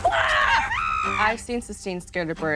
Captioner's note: yelling